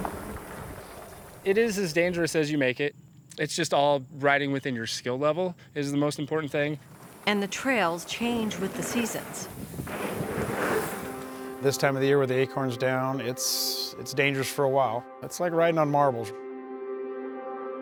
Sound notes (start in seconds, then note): 0.0 bikes riding past; 9.3 bikes riding past